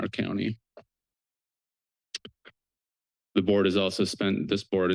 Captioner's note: pause